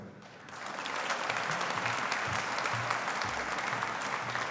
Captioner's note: audience applauding